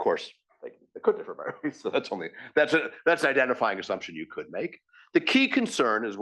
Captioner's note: laugh